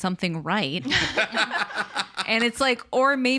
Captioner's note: all laugh